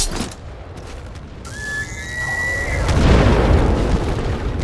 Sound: odd animalistic screeching

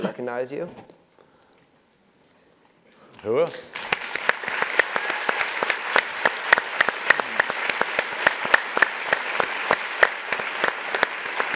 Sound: applause

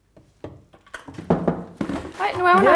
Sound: it knocks on the door

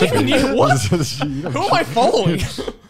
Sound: laughing

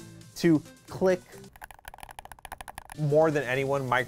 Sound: buttons clicking

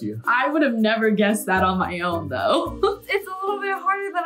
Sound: laughs

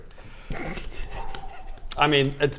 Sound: still giggling to himself

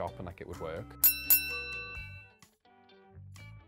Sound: chiming

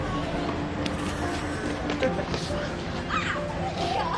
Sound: laughing

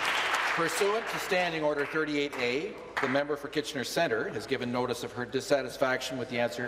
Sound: applause

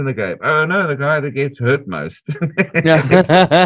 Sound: laughter

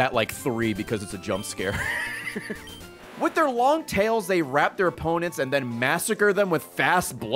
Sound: laughs

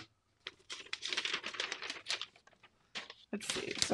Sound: paper rustling

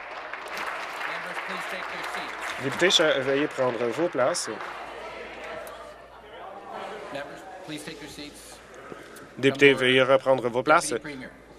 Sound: applause

